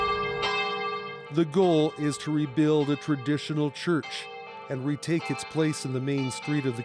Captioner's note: bells tolling